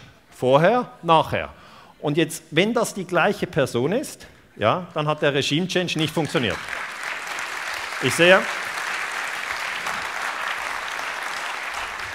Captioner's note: applause